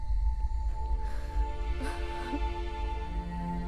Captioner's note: Crying